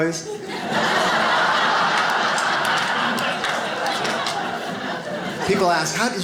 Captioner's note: audience laughs